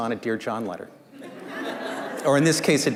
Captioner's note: laughter